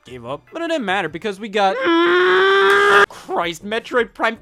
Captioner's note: groans